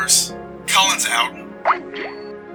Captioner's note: radio voice